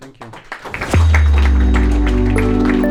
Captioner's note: audience applauding; upbeat music